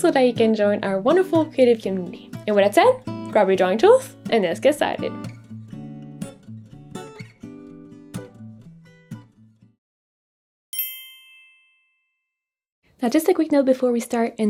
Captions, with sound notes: and so that you can join our wonderful creative community. And with that said, grab your drawing tools and let's get started. (lighthearted guitar music) (screen chiming) Now, just a quick note before we start.